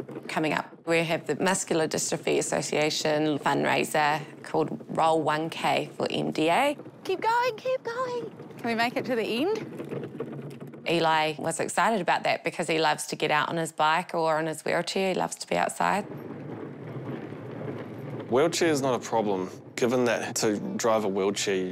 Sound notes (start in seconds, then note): none